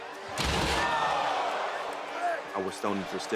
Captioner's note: crowd shouts